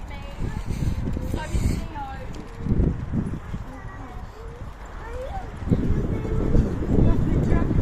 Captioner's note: baby crying